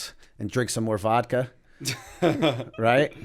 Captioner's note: laughter